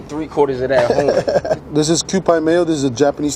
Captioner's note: laughs